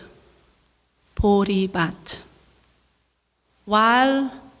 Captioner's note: speaking in foreign language